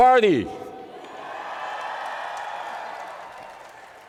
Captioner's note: crowd cheering